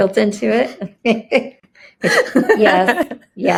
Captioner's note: laughing